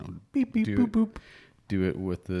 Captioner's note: gasps